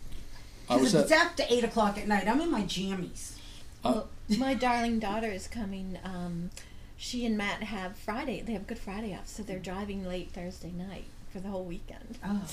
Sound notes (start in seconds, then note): 3.7 voiceover